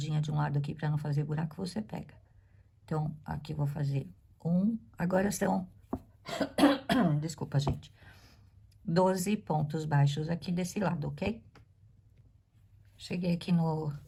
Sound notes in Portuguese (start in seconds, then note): 6.2 tosse; 6.3 limpando a garganta